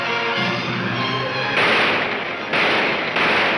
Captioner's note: gunshots banging